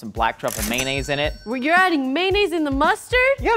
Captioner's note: cash register dings